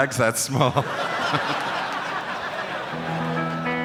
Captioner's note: crowd laughs